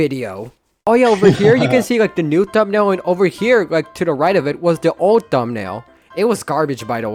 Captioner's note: laughs